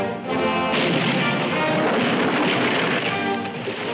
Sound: cannon roaring

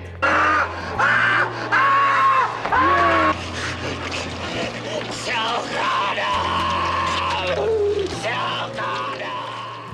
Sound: ahhhhhhhhh, ahhhhhh, AHHHHHHHHHH

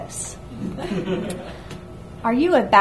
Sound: audience laughs

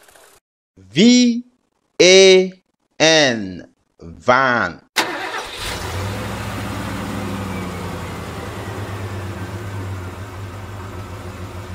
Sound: van Sound

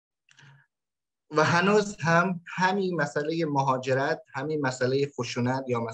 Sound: speaks in Dari

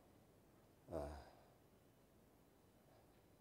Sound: sighs

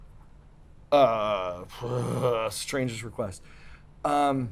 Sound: groans

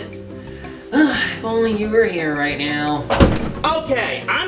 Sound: sigh

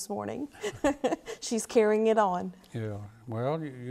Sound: laughs

